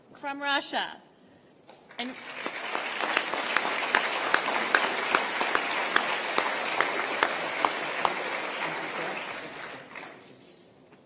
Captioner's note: applause